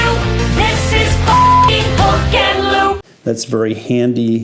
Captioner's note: beep